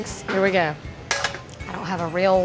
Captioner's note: pan clanking on burner